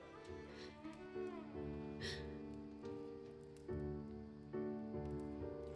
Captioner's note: relaxed music; Daphne gasping